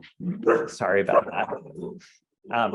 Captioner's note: dog barking